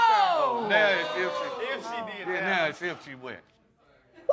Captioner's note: all exclaiming